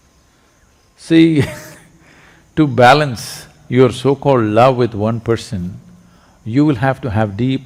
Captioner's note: laughs